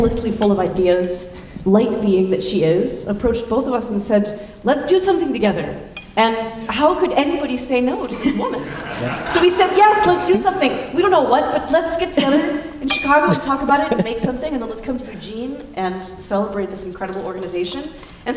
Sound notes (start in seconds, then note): 8.1 laughter